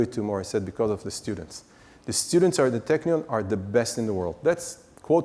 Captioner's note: none